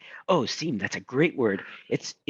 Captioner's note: speaking in foreign language